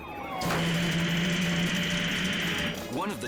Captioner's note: transmission rustles